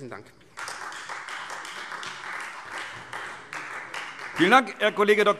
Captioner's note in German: Beifall Freie Demokraten